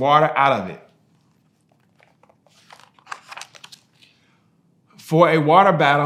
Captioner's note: pages rustling